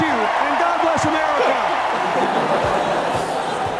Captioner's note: applause; laughter